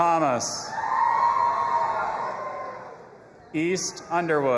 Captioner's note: audience applauding and cheering